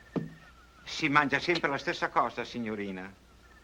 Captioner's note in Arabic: الصوت المنطوق بالإيطالية